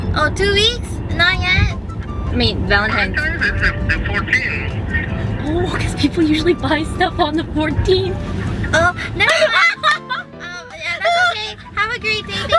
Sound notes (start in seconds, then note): 8.7 laughing